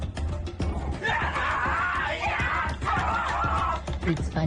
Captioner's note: actors screaming